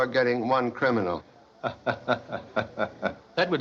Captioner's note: Gordon Chuckles